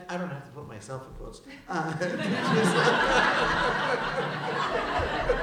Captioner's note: laughter